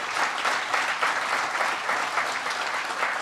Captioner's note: applause